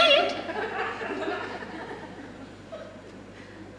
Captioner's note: audience Laughs